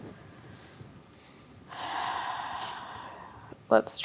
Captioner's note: sighs